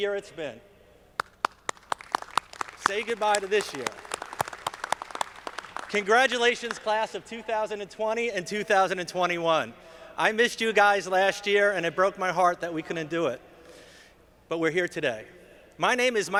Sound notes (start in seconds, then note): 1.1 audience clapping